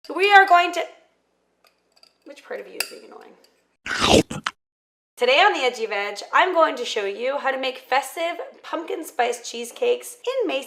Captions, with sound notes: - We are going to-- Which part of you is being annoying? (loud munching) Today on the Edgy Veg I'm going to show you how to make festive pumpkin spice cheesecakes